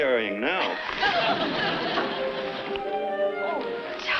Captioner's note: audience laughs